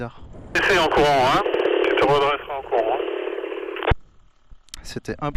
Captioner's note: random radio transmission